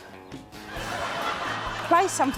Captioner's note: laughter